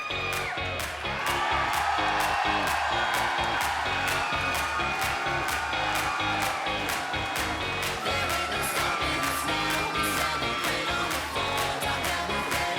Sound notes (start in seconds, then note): 2.0 crowd cheering